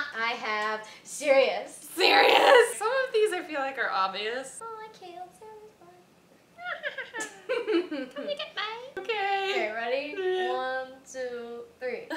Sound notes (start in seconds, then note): 6.6 Bellatrix-like cackle; 11.9 laughter